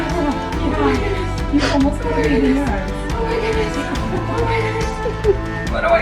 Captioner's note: panting and moaning